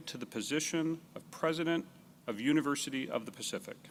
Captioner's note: none